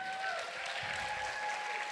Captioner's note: applause